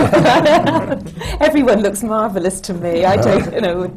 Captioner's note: laughter